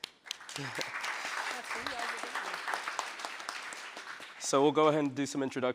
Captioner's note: audience applauding